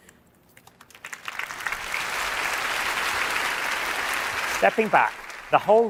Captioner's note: applause